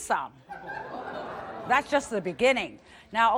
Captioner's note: audience laughs